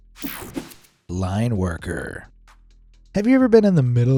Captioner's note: screen whooshing